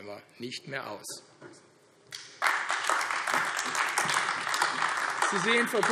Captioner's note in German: Beifall AfD